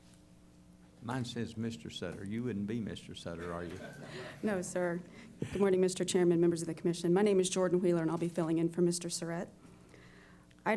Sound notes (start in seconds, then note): 3.4 laughter